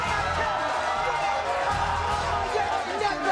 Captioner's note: crowd booing